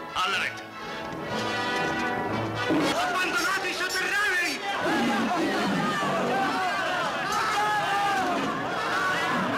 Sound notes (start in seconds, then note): 5.2 chatter